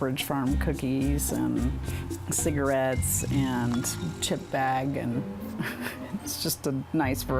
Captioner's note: laughing